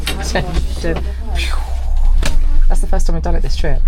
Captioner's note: makes whoosh sound